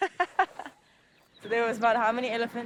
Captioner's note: laughing